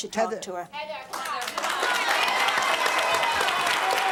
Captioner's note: applauding